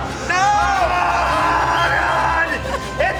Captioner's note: primal screaming